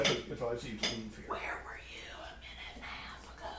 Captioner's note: stage whispering